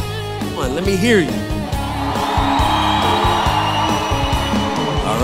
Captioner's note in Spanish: Aplausos de la multitud